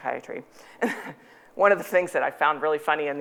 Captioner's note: chuckling